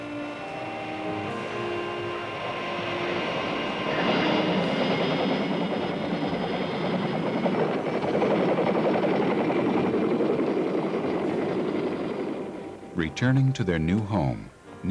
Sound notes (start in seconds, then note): 0.1 helicopter engine starting; 3.9 helicopter rotors whirling